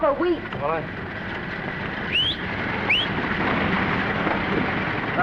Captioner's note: car rumbles; Maine whistles; stammering